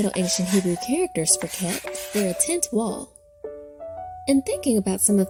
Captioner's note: chalk scratching